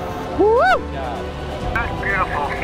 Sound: cheers

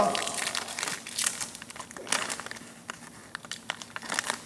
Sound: plastic crinkling

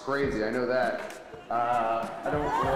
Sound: audience laughing

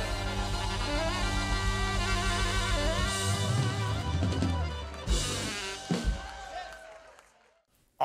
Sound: crowd cheers

